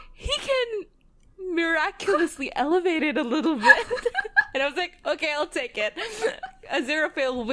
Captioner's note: laughs